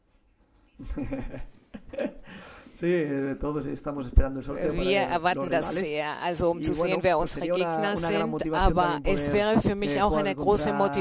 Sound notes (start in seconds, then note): 0.8 laughs